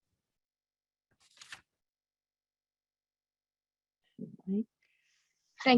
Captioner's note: paper rustling